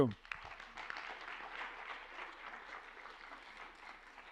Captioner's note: applause